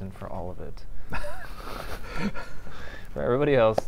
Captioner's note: laughter